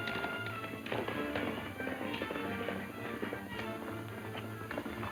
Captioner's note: hooves pounding distantly